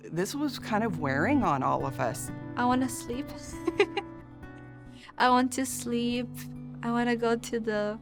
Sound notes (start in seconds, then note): 3.6 chuckles